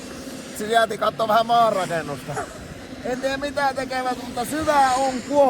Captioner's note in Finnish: naurahtaa